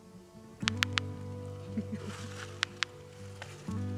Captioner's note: bill clicks